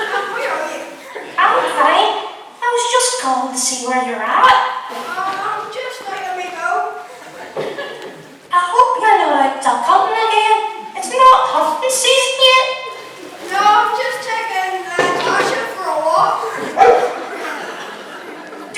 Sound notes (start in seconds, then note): 16.6 dog barks